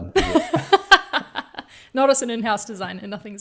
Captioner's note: laughing